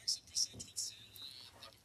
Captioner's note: speaking French